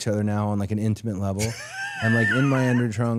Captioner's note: Dallas laughing